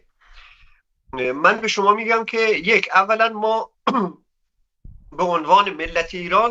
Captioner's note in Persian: گلویش را صاف می‌کند